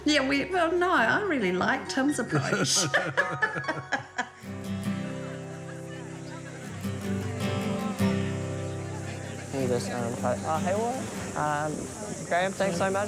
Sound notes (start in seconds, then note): 4.0 both laugh; 6.0 gentle guitar music